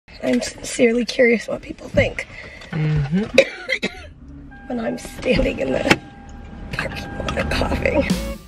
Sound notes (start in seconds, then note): 3.0 coughing